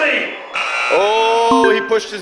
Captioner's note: buzzer; beep